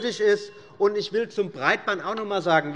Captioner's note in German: Unruhe - Glockenzeichen des Präsidenten